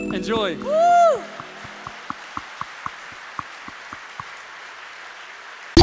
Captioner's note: applause